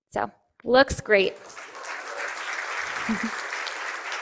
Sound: cheering and applause

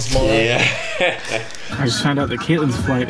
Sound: laughing

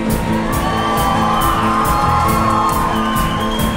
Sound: crowd cheering

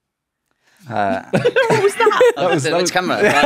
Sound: bemused chuckles

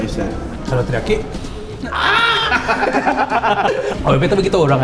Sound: shouting

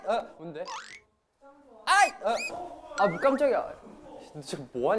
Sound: playful haha

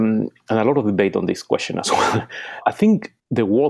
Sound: chuckles

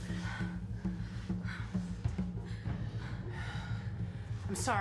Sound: Makayla panting

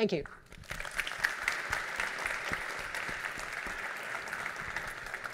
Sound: audience applauds

